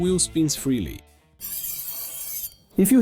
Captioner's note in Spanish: Ruido de freno; Ruido de pastillas de freno